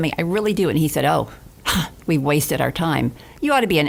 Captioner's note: sighs